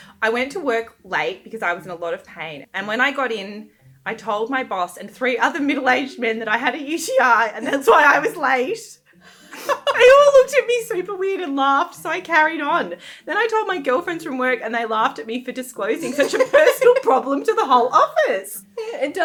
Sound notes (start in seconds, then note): 9.5 laughing